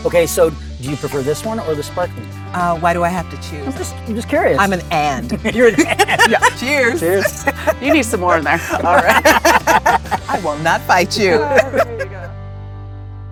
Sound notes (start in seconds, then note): 9.7 all laugh